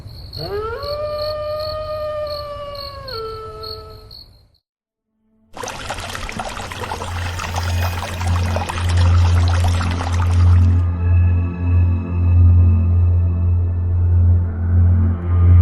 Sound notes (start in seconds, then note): 5.5 water sloshing